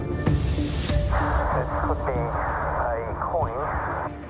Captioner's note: speaking over radio